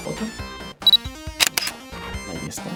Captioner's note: sound of camera photographing